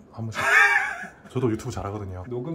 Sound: haha

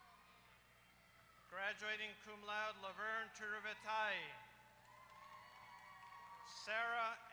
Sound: applause

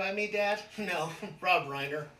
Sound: laughs

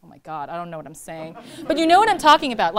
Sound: laughter

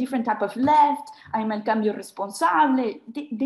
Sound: speaking in foreign language

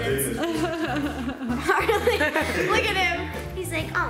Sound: laughter

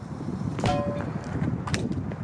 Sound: small pan bonk sound

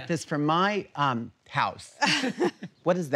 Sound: laughs

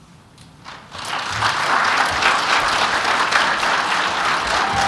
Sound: applause

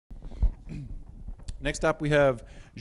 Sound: clears throat

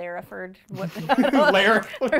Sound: laughing

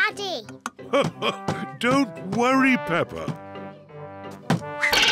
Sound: laughs

